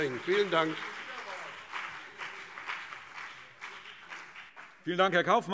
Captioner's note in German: Beifall BÜNDNIS 90/DIE GRÜNEN und CDU